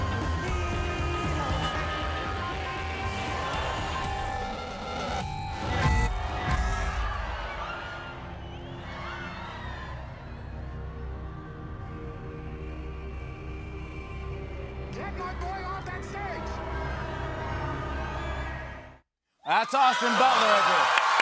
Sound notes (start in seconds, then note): 2.7 audio distorting; 5.5 crowd cheering; 9.4 ominous music plays